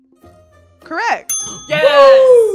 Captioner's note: bell dinging